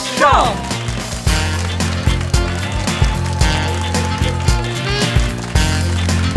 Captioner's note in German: lang anhaltender Jubelapplaus